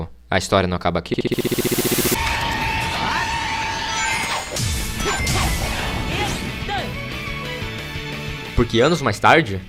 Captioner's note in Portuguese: Glitch